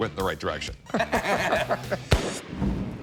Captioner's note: laughter